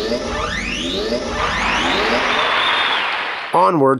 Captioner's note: computer whirs to life; cheering